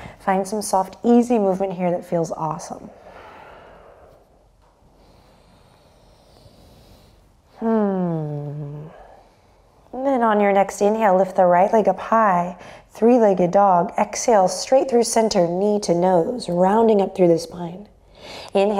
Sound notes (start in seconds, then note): 7.6 sighs